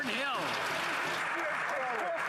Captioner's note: applause